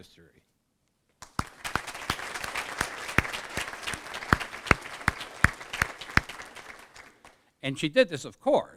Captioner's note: applause